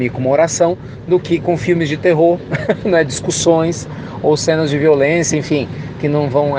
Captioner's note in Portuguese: risos